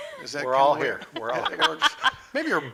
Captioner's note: laughing